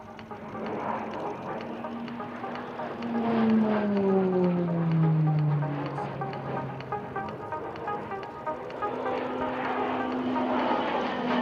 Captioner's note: PC21 aircraft sounds